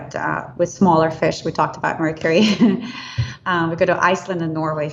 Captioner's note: laughs